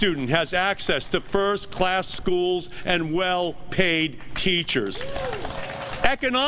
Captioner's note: applause